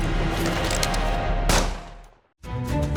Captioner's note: cocking guns; gunshot